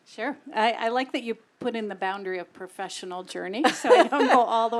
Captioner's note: laugh